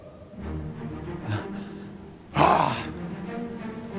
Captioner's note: Dayne chuckling; bright music